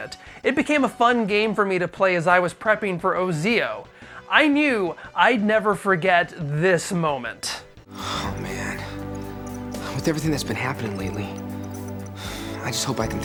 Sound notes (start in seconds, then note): 8.0 sigh